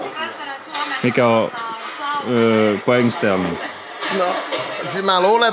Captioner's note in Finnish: taustapuhetta